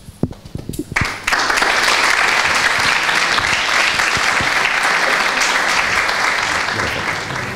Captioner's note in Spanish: aplausos